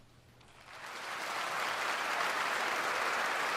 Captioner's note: applause